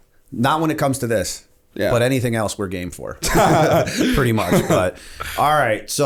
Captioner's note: laughter